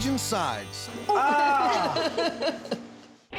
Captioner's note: laughs